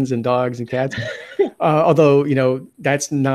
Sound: laughing

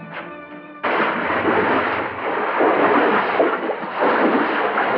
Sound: footsteps

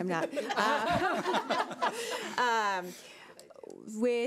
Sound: laughs

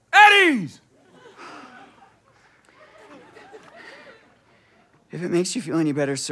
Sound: collective sigh

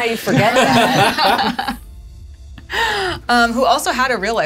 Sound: laughter

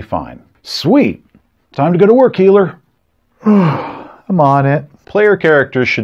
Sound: yawns

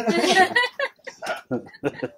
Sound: everyone laughs

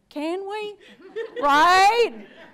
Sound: audience laughs

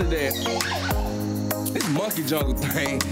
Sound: birds chirping

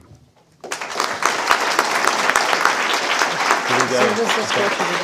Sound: audience applauding

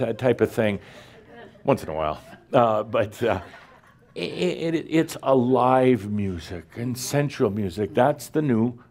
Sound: a few chuckles

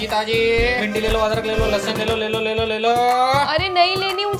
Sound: vegetable Itinerant Shouting

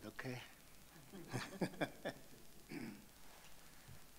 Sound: chuckles

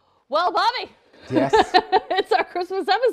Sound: laughs

